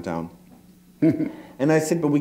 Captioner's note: chuckle